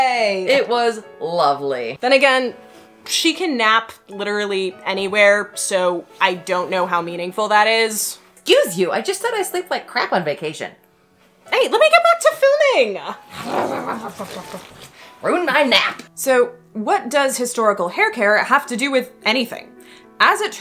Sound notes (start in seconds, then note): 13.3 undignified grumbling